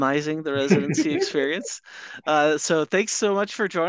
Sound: laughing

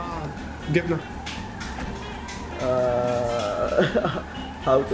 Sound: speaking foreign language

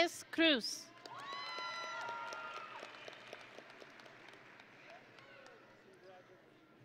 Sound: audience and graduates cheering

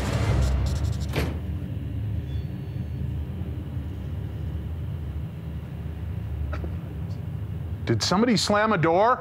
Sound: slamming

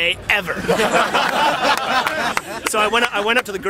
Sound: laughter

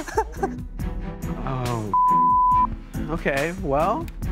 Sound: beep

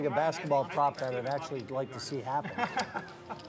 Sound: laughing

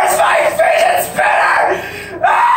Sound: breathes in

